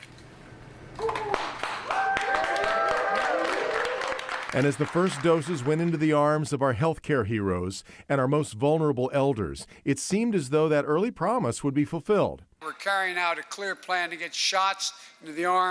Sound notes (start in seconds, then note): 3.8 cheers and applause